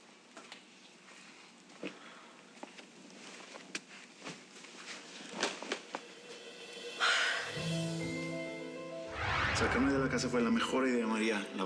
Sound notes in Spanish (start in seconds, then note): 6.9 exhala